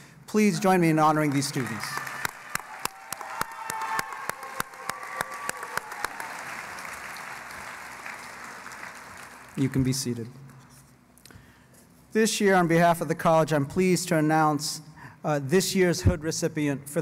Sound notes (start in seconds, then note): 2.7 cheering and Applause